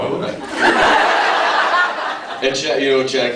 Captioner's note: laughs